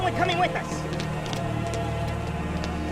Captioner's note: running footsteps